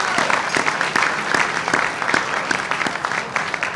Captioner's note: audience applauding